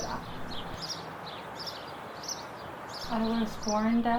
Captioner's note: birds chirping